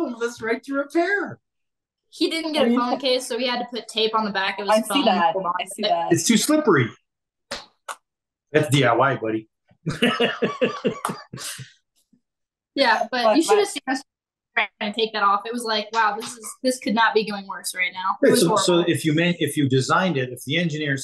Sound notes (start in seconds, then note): 9.8 laughs; 14.0 faintly speaking